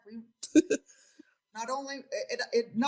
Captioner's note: laughs